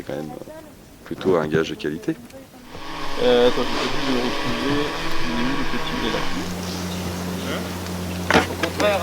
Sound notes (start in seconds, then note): 2.6 drone sound